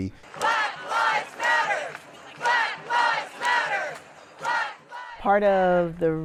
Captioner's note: crowd